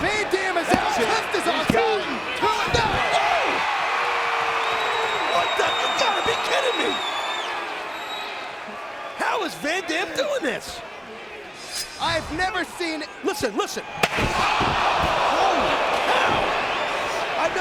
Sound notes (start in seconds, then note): 3.6 audience cheering; 14.1 audience gasps; 14.2 chair thuds